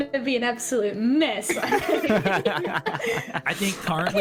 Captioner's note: all agreeing laughter